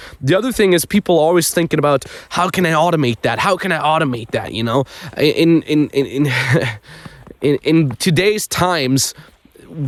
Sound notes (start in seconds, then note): 6.0 chuckles